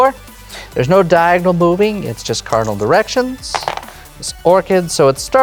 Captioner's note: dice rattle